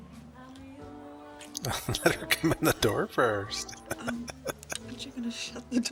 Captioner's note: laughing